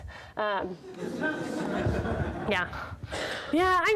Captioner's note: audience laughs